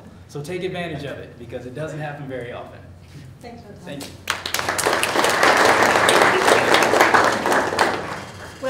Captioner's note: applause